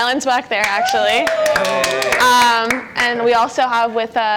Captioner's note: clapping